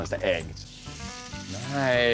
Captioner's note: grill sizzling